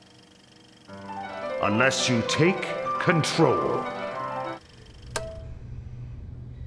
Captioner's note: click